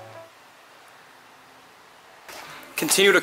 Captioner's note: radio silence